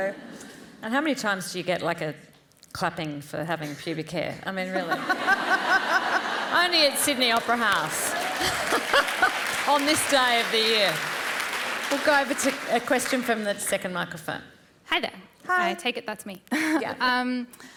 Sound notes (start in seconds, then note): 4.7 laughter; 6.8 applause